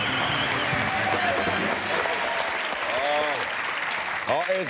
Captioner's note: cheering, applause